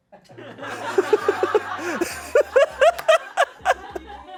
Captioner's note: everyone laugh